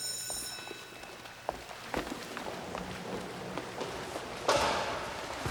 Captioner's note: water splashes